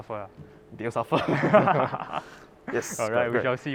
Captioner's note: laughs